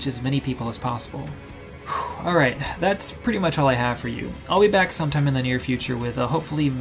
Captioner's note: sighs